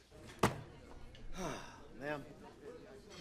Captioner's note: sighing